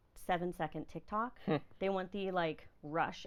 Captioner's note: laughing